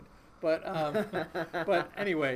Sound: laughing

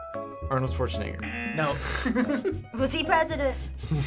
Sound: chuckles

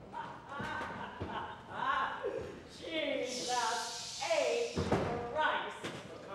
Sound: laughter

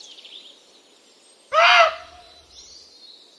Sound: barks

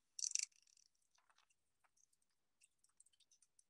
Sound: pages fluttering

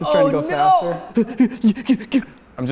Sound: panicked heaving

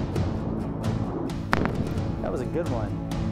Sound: jet flying; sonic Boom

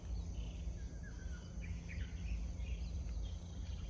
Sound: birds singing in the background

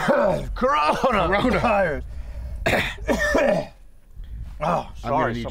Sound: continues coughing

